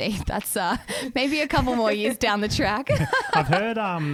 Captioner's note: laughs